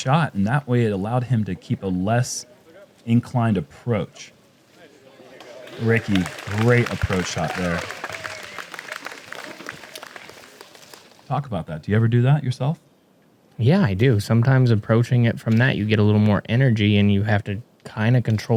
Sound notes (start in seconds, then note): 5.3 applause